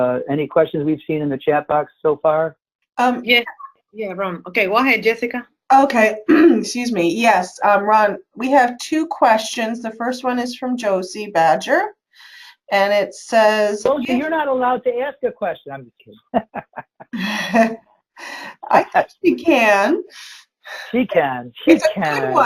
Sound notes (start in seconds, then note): 16.1 laughs